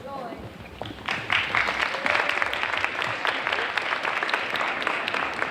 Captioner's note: audience applauding